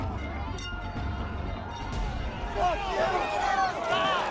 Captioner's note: crowd yelling